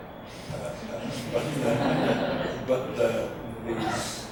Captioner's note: audience laughs